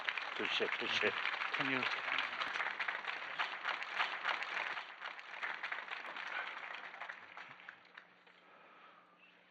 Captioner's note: clapping